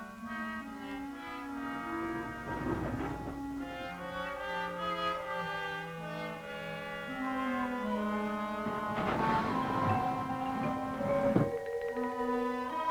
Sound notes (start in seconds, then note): 9.6 door closes